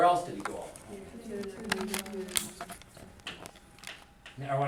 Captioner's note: students chattering